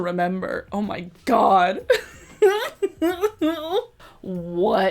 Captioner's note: laughs